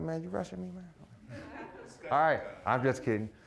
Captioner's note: audience laughing